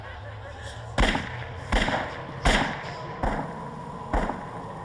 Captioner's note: gun firing